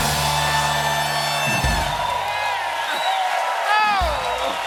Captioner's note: cheers and applause